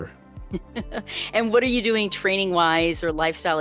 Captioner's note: chuckles